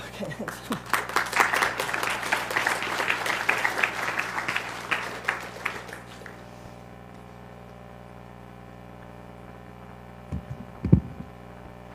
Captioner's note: applause